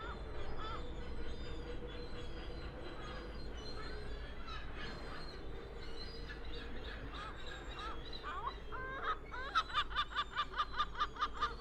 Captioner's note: seagull squawk